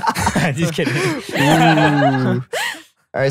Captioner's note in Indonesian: tertawa